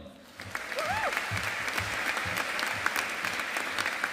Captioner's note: audience applauding